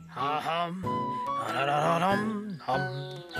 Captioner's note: humming